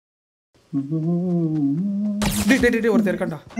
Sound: humming

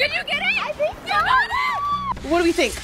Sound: both scream

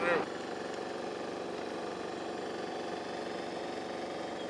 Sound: machine roars

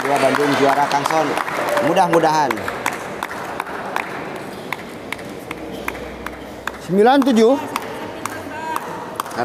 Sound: applause

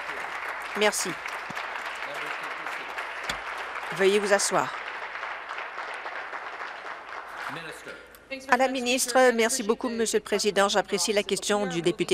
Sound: applause

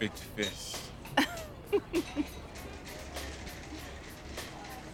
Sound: laughing

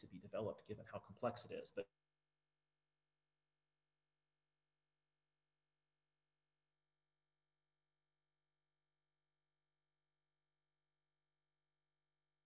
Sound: break in audio

